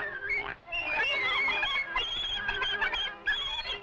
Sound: squealing in rhythm

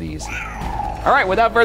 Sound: purrs

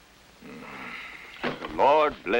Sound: sigh

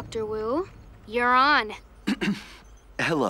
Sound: clears throat

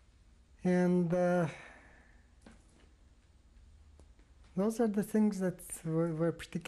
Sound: pauses for 3 seconds

